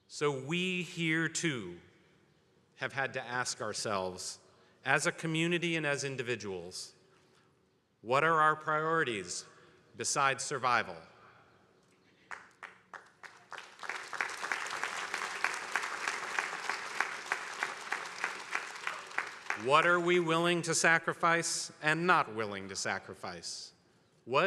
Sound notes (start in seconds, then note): 12.3 attendees applauding